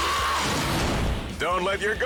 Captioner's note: husband screams; explosion blasts